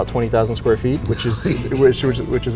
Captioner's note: sighs